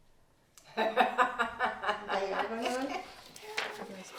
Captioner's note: laughing